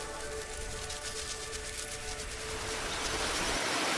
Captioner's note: sound of butterfly wings flapping